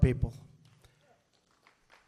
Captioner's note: applause